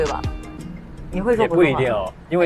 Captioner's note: Mandarin